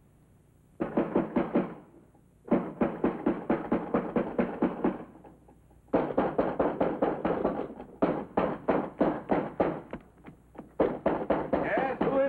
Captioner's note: loud sharp knocking on door